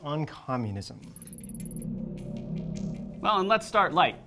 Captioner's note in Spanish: pitido agudo